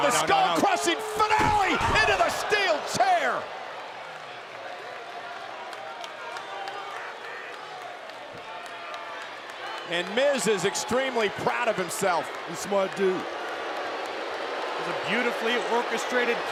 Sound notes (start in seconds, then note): 0.0 applause; 6.8 applause